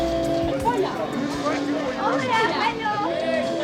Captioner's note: crowd cheering; crowd chatter